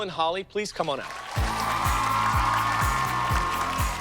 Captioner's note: cheers and applause